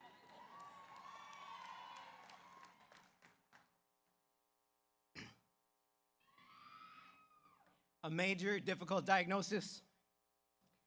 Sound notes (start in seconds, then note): 0.0 audience cheers; 0.0 audience applauds